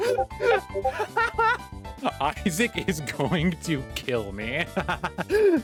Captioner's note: discord pings and losing it laughing; evil laughing